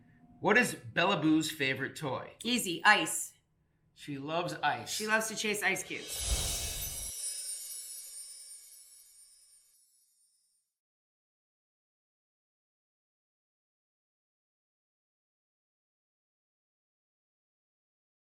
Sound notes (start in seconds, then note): 5.7 whooshing; 5.8 chimes